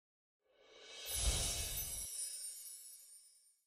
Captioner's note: twinkling